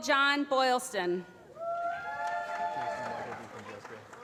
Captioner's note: applause